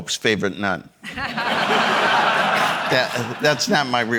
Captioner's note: audience laughing